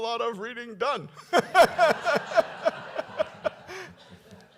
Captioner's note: laughter